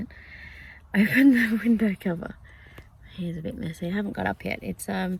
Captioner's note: laughingly